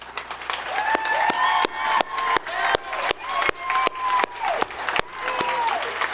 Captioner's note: audience applauding and cheering